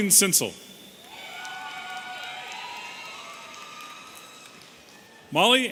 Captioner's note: audience cheering